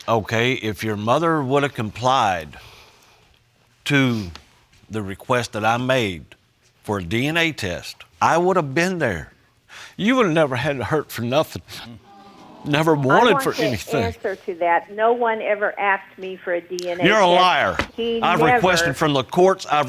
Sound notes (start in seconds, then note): 9.7 voice breaking; 12.0 audience sighs in sympathy